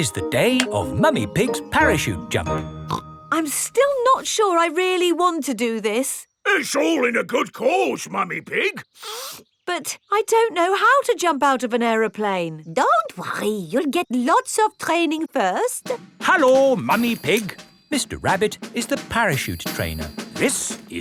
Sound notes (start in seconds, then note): 8.9 sniffs